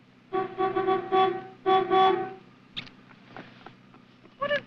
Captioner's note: cars honking